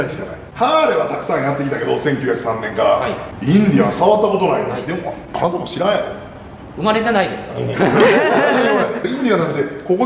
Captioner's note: laughs